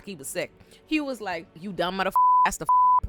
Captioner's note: beep